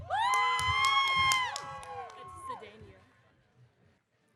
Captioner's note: audience cheering